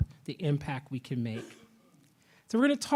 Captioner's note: attendee coughs